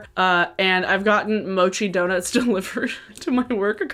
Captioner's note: laughing